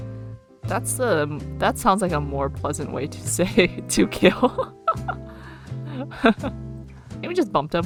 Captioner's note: laughs